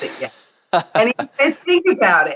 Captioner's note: laughs